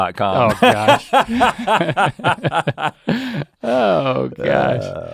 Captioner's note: both laugh